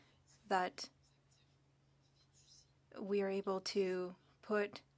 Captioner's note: speaking French